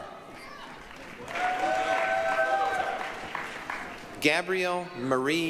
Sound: applause, cheering

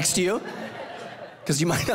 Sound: congregation laughing

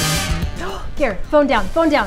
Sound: gasps

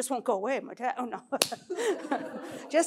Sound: laughs

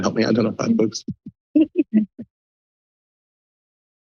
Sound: laughs

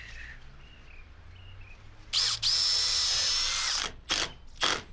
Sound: drill whirrs

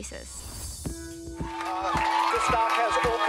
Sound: cheers and applause

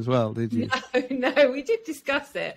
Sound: laughing

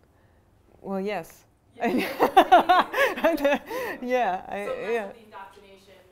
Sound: laughs

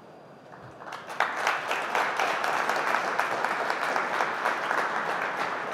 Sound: applause

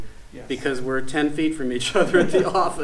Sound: chuckles

